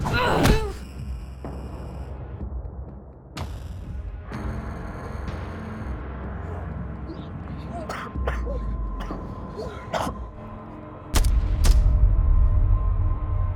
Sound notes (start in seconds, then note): 0.0 grunting; 0.0 smacking; 7.0 coughing; 11.2 popping